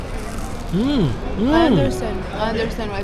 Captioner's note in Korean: 와그작 와그작